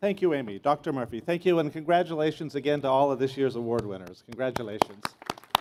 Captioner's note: applause